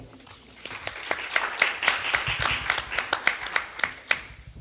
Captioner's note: crowd applauds